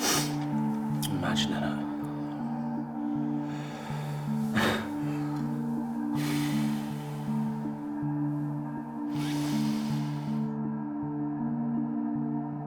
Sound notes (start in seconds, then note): 4.9 Danny chuckles; 6.4 Danny sighs